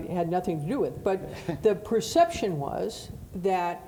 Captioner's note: laughing